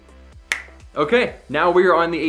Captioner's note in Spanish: chasquido